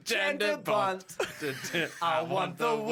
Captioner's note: wheeze